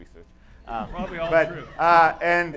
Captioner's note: laughter